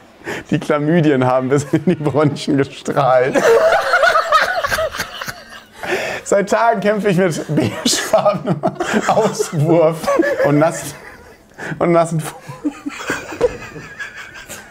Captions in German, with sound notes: Die Chlamydien haben bis in die Bronchien gestrahlt. (Brüllendes Lachen) Seit Tagen kämpfe ich mit beigefarbenem Auswurf und nassen ... und nassen ... (Keuchendes Lachen)